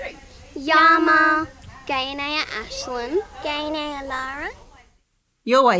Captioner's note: kids speaking in Kamilaroi language